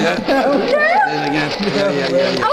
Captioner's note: screams